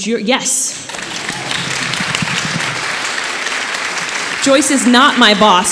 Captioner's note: audience applauding